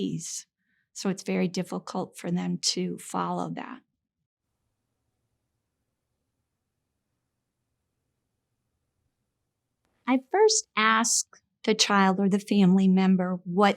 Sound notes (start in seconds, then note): 3.9 silence